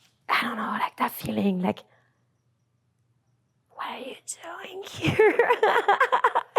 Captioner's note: laughs